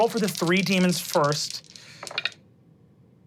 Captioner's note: dice clinking; dice rolling